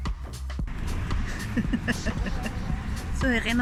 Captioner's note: laughing